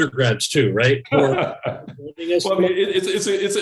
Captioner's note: laughs